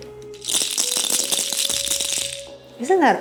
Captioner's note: deer toe rattle clacking